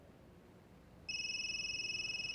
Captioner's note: cell phone ringing